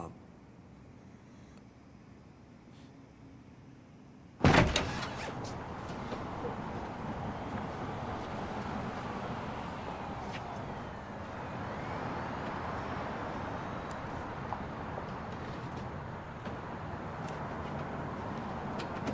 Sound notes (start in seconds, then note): 4.3 door opens; 9.4 siren in the distance